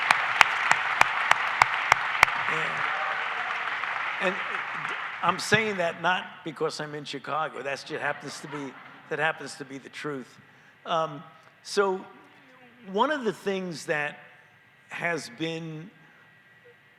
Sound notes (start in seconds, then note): 0.0 cheers and applause